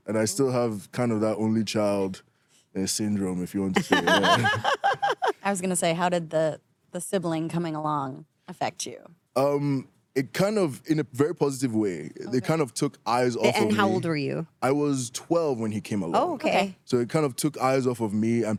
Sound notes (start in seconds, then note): 3.8 laughs